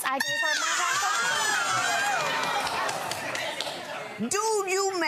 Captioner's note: judge Lynn shouts